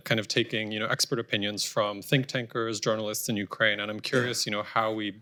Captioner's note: off mic